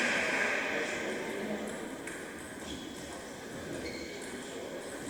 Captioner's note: applause